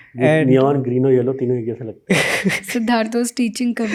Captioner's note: speaks in Hindi